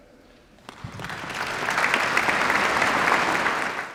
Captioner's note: applause